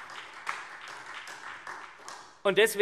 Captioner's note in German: Beifall SPD